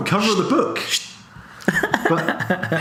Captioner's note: laughs